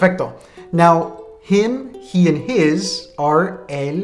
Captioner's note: speaking in a foreign language; speaking in a foreign language